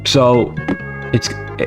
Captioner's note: drops Phone